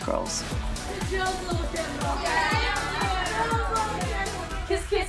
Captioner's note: indistinct chatter